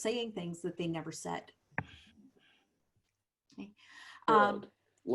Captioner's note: silence